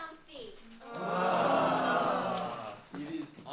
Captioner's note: groans all around